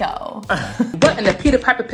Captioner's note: chuckles